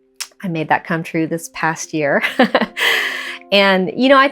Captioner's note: laughs